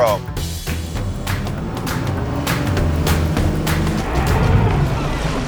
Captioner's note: upbeat music; boat engine whirring; seagulls calling; water splashing